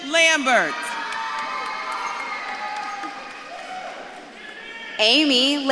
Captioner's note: audience claps and cheers